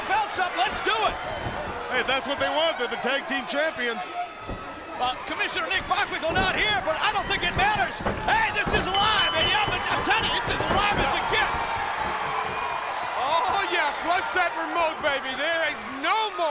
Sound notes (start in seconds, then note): 8.9 bell ringing; 12.1 crowd cheering